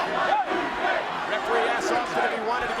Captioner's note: audience chanting